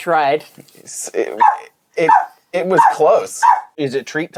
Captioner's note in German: Hund bellt